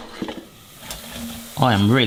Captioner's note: onions sizzling